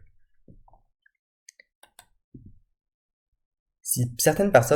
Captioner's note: Clic